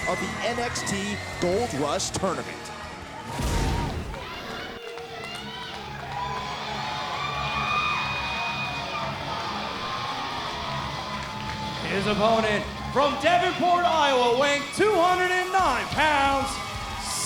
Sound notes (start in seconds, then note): 5.4 rock music; 7.9 audience cheers